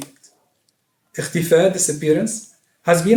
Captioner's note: non-english speech